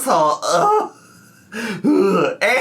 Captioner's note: sighs